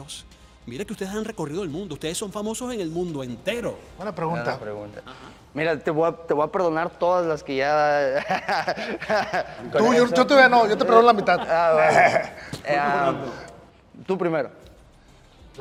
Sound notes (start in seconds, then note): 8.0 laugh